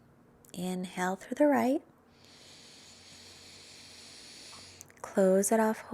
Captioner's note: inhales deeply